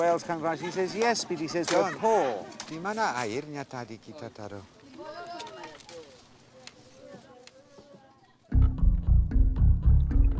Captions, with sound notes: whales come around. He says, "Yes, but we are poor." [speaking Austronesian language] [adventure music]